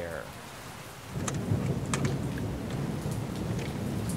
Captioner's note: thunder rumbling